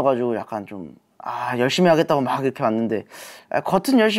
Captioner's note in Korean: 스읍